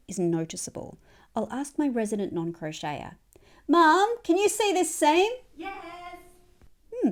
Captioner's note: wheelie yells; muffled yell from mum